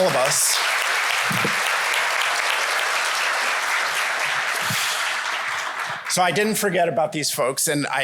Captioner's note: applause